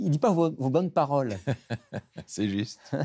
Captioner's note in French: rire de Paul